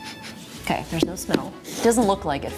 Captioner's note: sniffing